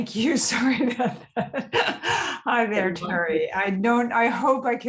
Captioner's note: laughs